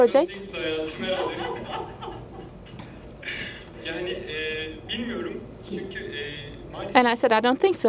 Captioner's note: laughter